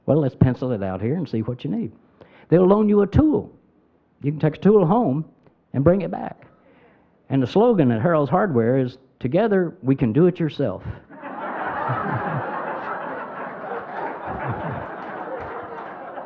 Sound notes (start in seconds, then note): 11.1 crowd laughing